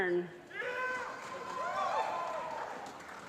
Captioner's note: applause